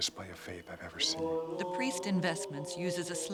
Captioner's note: chanting continues